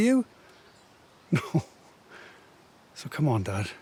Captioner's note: laughing